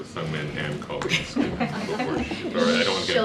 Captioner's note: laughter